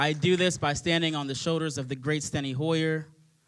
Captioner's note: applause